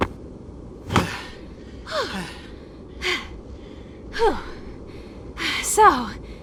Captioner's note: catching breath